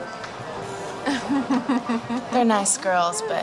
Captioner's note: giggling